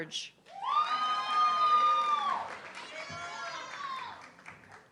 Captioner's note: audience clapping and cheering